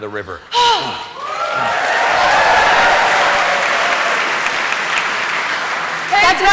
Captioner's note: applause